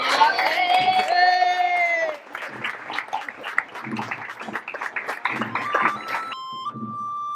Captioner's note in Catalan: Aplaudiment